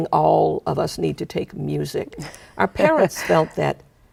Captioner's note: chuckling